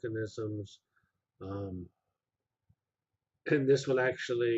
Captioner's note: pause